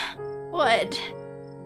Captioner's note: sniffles